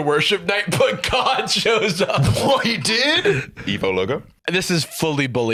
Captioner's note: laughs